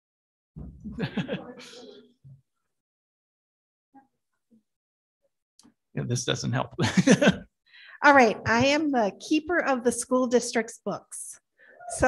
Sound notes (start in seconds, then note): 0.8 board laughs